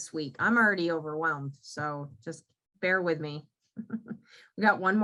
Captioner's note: giggles